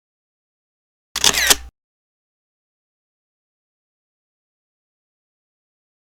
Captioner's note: camera lens snapping